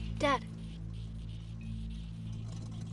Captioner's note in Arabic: طلقات المحرك